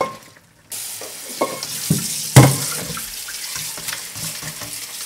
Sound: water running

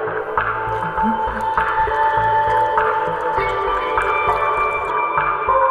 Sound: barely audible whisper

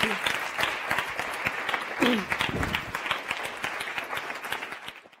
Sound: audience applause

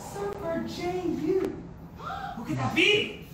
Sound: gasp

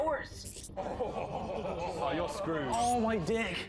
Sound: laughter

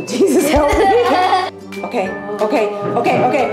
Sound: laughing

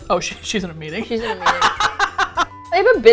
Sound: both laugh

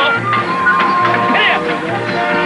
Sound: whooping

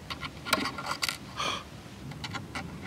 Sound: gasp

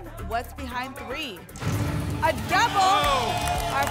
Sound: booms

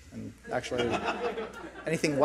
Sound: audience laughs

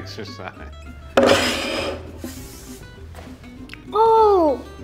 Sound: plate sliding on table

